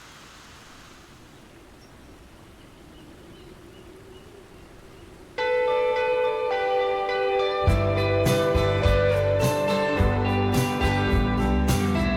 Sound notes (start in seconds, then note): 1.8 birds chirping